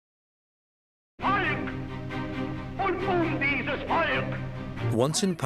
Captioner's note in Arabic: الصوت المنطوق باللغة الألمانية